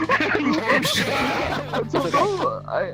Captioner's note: screams